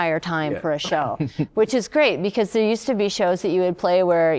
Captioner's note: laughter